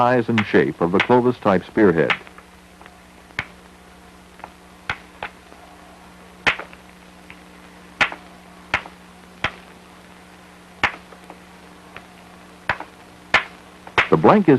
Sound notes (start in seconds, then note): 4.4 sound of hammering rock